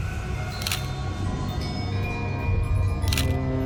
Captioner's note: camera shutter clicking; dramatic music